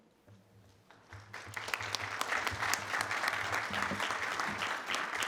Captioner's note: audience applauding